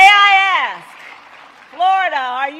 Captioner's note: applause